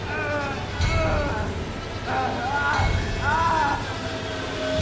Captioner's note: screaming